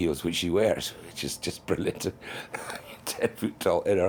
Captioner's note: chuckling